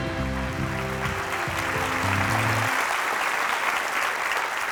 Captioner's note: audience applauding